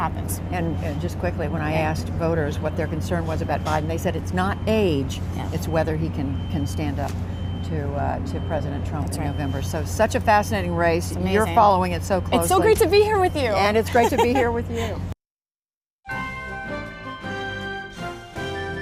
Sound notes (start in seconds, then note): 13.8 laughter